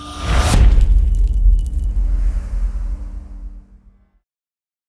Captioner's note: impact